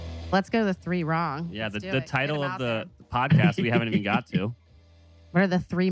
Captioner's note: laughs